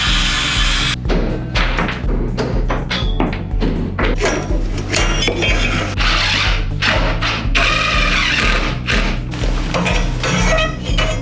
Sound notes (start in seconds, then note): 1.2 hammer thumps; 6.3 drill whirs